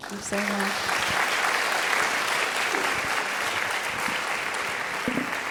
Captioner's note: audience applauding